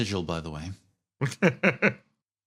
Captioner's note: laugh